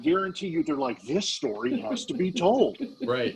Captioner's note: laughing